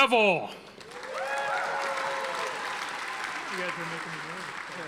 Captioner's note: audience applauding